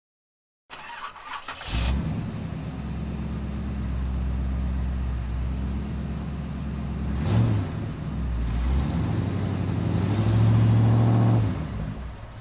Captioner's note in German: Motor startet und läuft